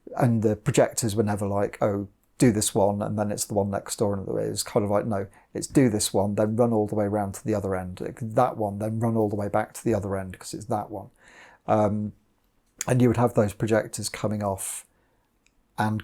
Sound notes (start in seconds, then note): none